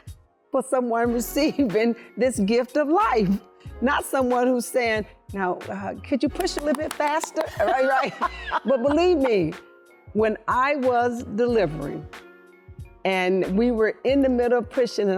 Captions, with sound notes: for someone receiving this gift of life, not someone who's saying "now, uh, could you push a little bit faster?" [laughing] But believe me, when I was delivering, and we were in the middle, pushing,